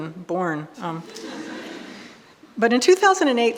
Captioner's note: audience laughing